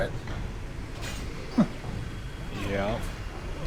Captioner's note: laughs